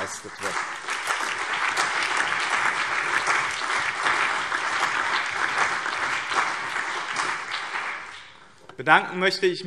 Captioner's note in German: Beifall BÜNDNIS 90/DIE GRÜNEN, CDU, SPD, Freie Demokraten und DIE LINKE